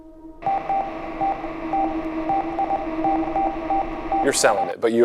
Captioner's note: tense music; morse code beeps